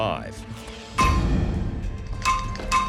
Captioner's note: metal thuds